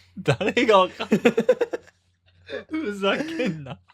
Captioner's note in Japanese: 笑い